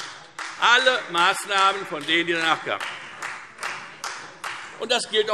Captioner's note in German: Beifall Freie Demokraten